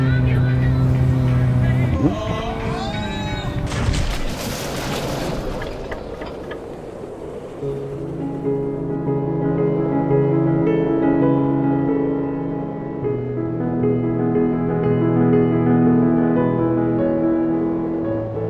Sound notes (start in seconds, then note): 0.0 song on the radio; 1.6 driver screams; 3.9 car crashes, music stops, engine backfires; 7.1 blowing winds; 8.9 cinematic piano score